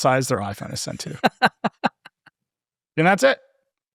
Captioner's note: laughing